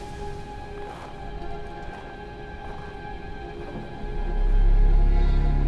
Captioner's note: gentle suspenseful music continues; snow crunching beneath footsteps; gentle suspenseful music